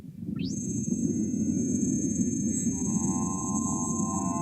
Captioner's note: high pitched whirring